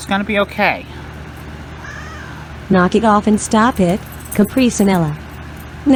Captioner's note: Caprice meows angrily